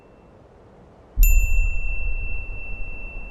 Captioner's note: chiming sound; wind blowing